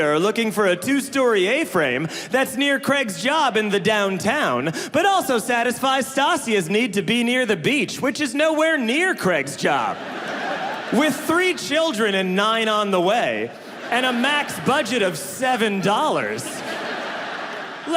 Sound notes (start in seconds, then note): 9.6 audience laughing; 16.5 audience laughing